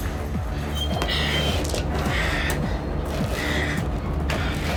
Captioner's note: heavy door - Jan moaning